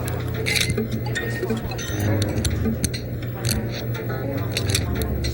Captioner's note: ominous ambient music; Arthur narrates in distance